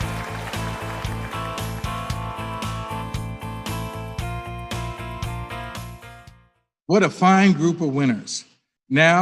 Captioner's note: applause